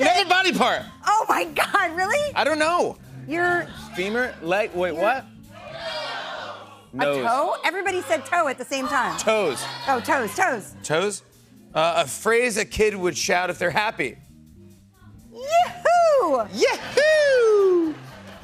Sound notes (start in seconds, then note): 5.5 audience shouting